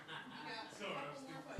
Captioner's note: laughter